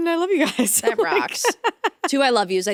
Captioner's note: laughing